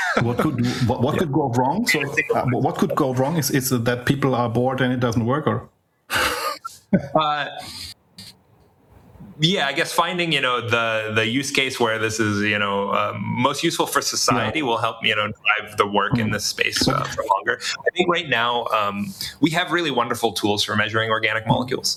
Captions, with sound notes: What could go wrong? So I think what could go wrong is that people are bored and it doesn't work or? Yeah, I guess finding the use case where this is the most useful for society will help me (laughs) survive the work in this space for longer. I think right now we have really wonderful tools for measuring organic molecules.